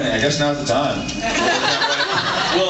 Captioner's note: laughs